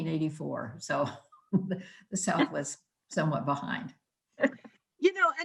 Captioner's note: laughing